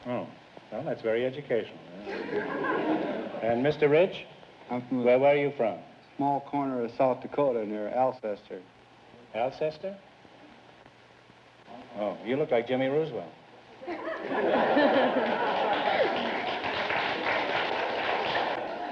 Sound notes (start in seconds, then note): 13.8 audience laughter; 14.8 applause